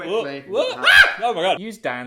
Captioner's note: screaming